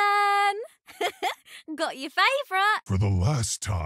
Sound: laughs

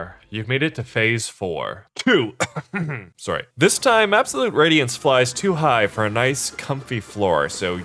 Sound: 2 *cough

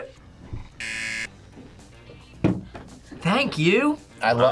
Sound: buzzer

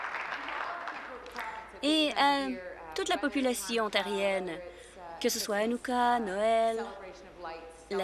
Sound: applause

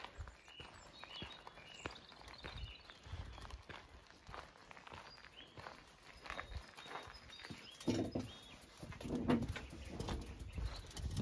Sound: sound of birdsong and footsteps on gravel

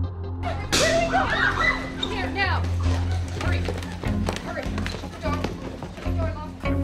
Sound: screams

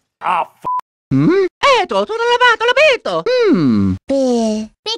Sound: italian gibberish

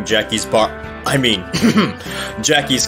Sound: ahem

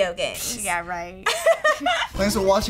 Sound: laughs

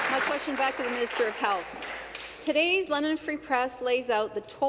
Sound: applause

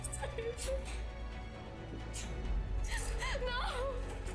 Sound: crying

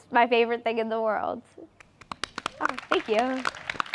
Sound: applause

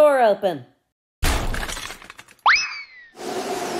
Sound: crash!; wind

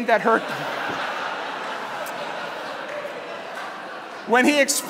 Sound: laughter

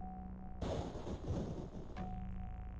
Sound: thunder strikes

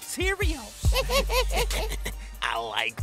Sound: laughs; old Man laughs

